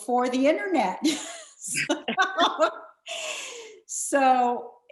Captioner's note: laughs